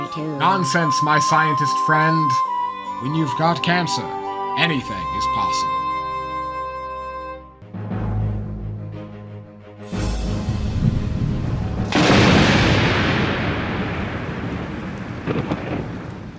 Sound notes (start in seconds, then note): 12.0 music stops. thunder strike